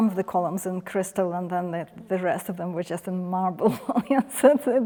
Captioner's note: chuckles